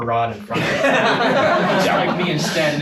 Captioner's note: everyone laughing